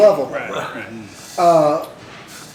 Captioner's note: laughter